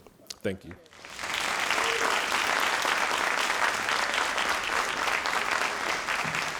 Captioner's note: all applauding